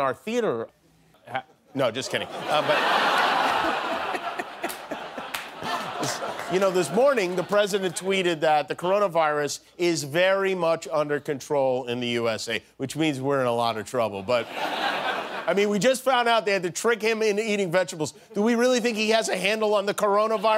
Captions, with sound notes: CORONAVIRUS, WHICH IS SPREADING. IN FACT THREE PEOPLE IN OUR THEATER -- NO, JUST KIDDING. [ LAUGHTER ] YOU KNOW, THIS MORNING, THE PRESIDENT TWEETED THAT THE CORONAVIRUS IS VERY MUCH UNDER CONTROL IN THE USA, WHICH MEANS WE'RE IN A LOT OF TROUBLE. BUT I MEAN, WE JUST FOUND OUT